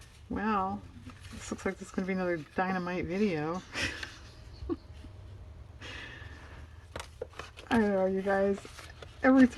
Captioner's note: laughs